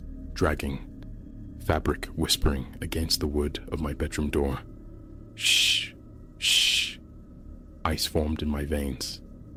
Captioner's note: shhh… shhh…